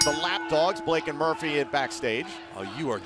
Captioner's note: bell ringing